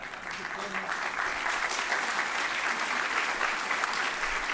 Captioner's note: applause